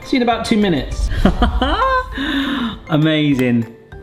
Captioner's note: laughs